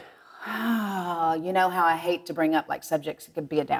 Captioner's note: sighing